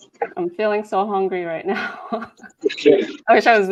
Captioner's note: laughs